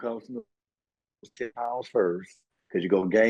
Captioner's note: audio out